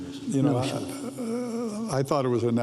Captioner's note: overlapping chatter